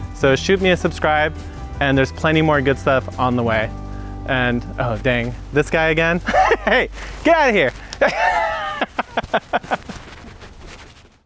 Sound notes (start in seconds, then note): 8.8 laughs